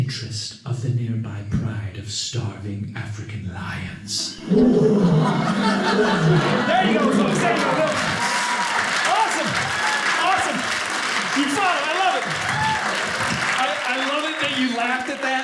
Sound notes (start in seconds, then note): 4.4 lions roaring; 8.0 audience applauding; 12.1 audience cheering